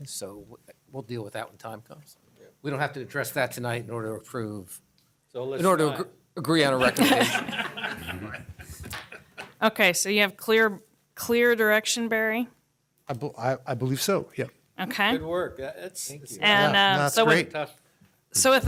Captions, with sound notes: EXPANDING DESIGN OVERLAY. WE'LL DEAL WITH THAT WHEN THE TIME COMES. [ LAUGHING ]. >> OKAY. SO YOU HAVE CLEAR DIRECTION, BARRY? >> I BELIEVE SO, YEAH. >> GOOD WORK. >> THANK YOU. >> THAT'S GREAT. >> SO WITH THAT, I'M GOING TO